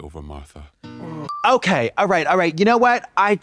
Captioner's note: pause bell